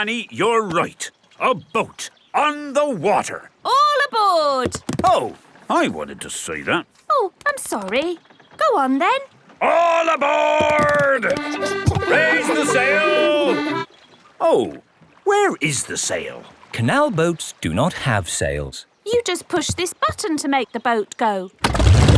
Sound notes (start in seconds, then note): 11.5 kids laughing